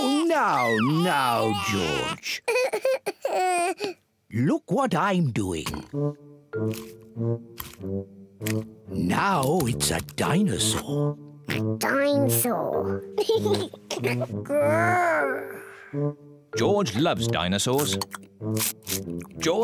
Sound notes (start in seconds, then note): 2.4 cries; 11.5 oinks; 13.2 laughs